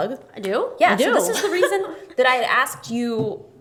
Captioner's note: laughs